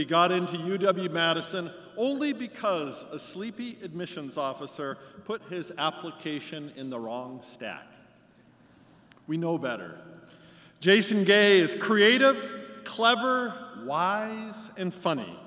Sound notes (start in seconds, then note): none